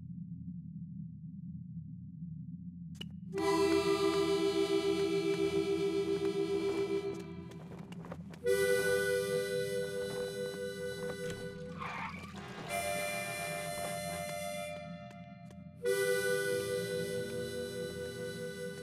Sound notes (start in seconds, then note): 3.3 gentle wistful music; 11.8 brakes screeching; 11.8 car horn honking